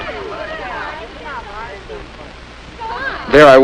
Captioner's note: light chattering